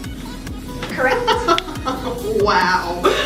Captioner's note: cackling